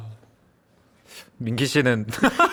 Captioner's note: awkward silence immediately follows